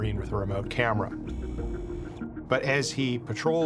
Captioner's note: lens whirring